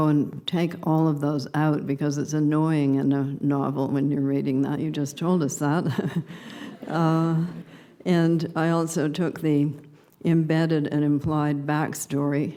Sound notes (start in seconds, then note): 6.5 subdued laughter